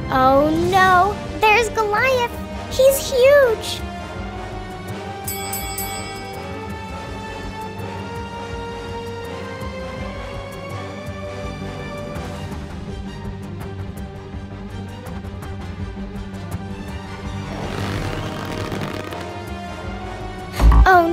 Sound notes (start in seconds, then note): 3.2 suspenseful music; 5.2 bell dinging; 17.6 slingshot squeaking